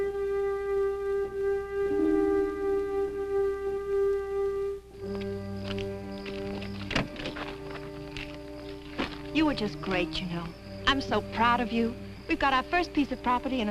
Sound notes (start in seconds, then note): 5.1 insects chirping